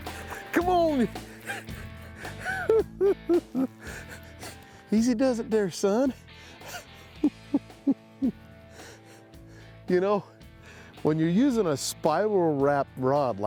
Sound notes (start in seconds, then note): 0.0 cackling; 1.2 chuckles